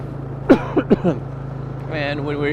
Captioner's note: coughing